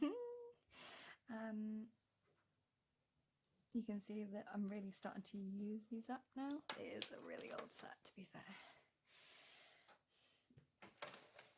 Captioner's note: giggle